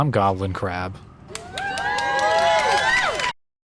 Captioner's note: nickelodeon sitcom applause